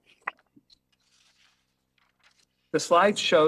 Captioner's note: paper rustles